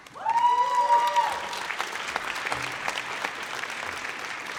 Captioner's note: audience cheers